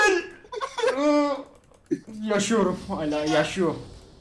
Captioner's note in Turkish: bağrışmalar